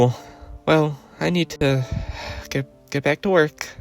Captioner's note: sigh